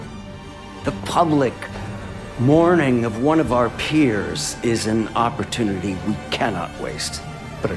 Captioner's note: voiceover